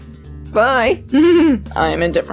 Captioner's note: chuckles